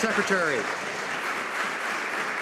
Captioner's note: some Applause